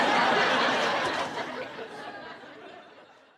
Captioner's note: crowd laughing